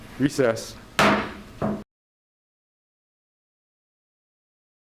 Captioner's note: hammer thudding